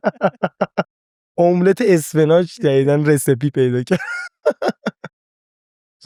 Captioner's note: laughs